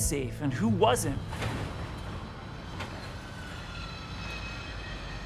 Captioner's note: machinery whirring